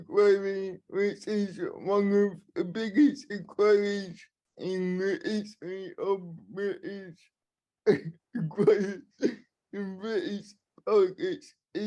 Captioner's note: laughing